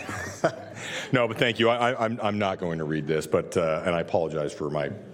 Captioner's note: laughter